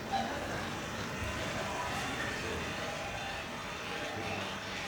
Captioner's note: audience laughing